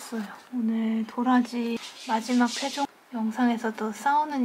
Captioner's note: running sound🐶🐱